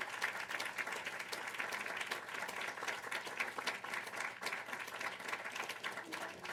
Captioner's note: applause